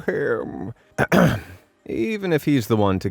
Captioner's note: narrator clears throat